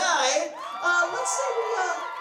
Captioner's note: audience applause